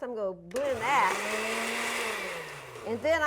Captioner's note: blender whirs